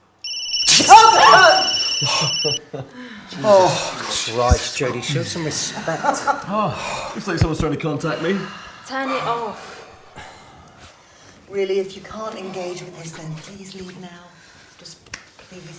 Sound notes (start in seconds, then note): 1.9 chuckling